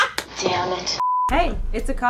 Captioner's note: beep